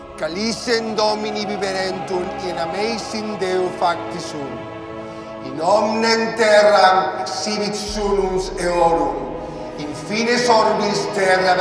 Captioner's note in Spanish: continúa leyendo en latín